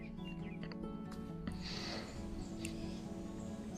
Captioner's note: birds chirping